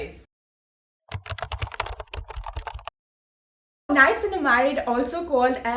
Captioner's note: typing sound